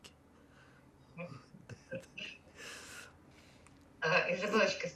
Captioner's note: laughing